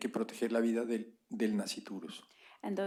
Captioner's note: spanish